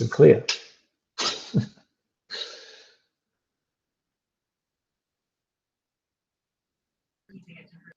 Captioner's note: laughs